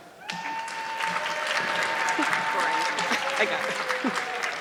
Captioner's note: audience clapping